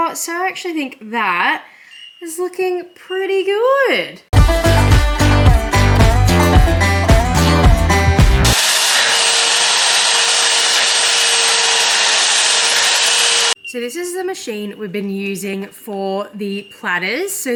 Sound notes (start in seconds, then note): 4.3 upbeat country jingle plays; 8.4 electric sander surges